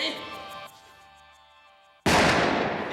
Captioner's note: gun shot